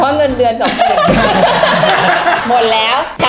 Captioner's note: burst out laughing